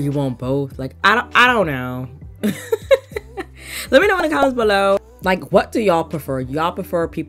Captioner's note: laughs